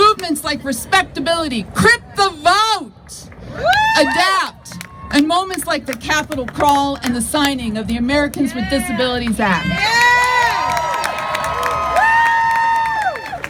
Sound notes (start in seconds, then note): 3.6 crowd cheers; 9.2 crowd claps and cheers